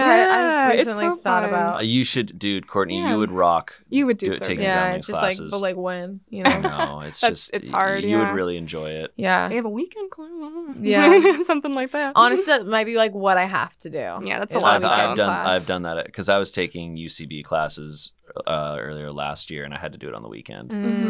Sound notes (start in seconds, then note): 6.3 laughs; 10.7 murmurs